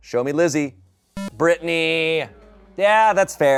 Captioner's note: electronic beep